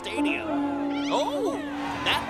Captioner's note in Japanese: ホーンの音